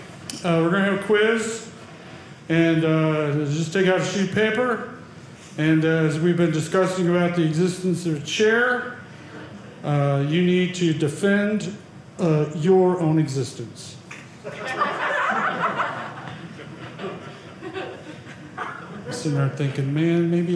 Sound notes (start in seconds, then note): 14.4 audience laughing